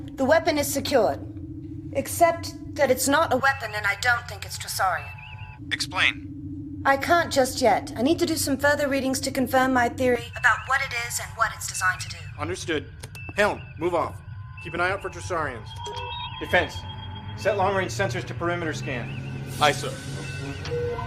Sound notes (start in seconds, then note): 5.6 comm voice; 10.3 comm voice